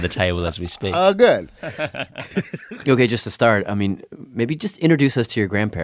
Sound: laughs

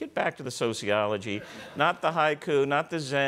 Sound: laughter

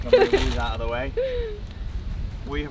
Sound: chuckles

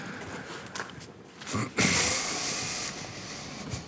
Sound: he clears his throat

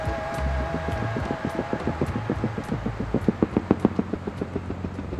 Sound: helicopter hovering

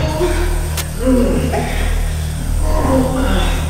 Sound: moaning sounds

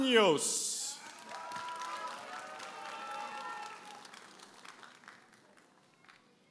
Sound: audience applauding and cheering

